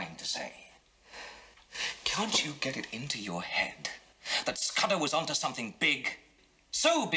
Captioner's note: sighs